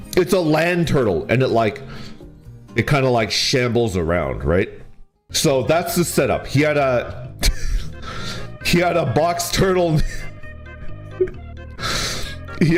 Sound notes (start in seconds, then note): 7.4 laughs; 11.0 laughs